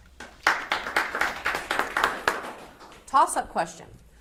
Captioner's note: audience applauds